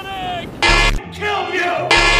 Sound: honk

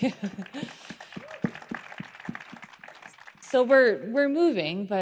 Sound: applause

